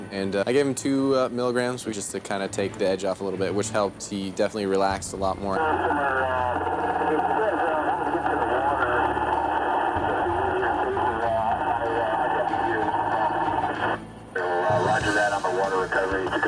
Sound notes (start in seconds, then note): 9.1 radio interference